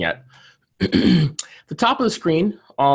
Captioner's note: clears throat